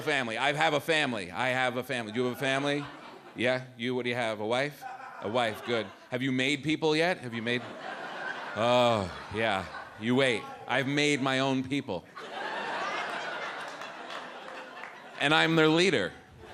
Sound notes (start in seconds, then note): 12.1 audience laughs